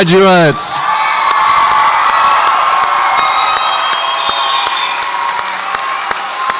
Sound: audience applauds and cheers

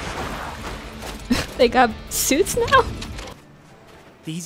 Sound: chuckle

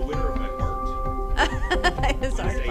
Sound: laughing

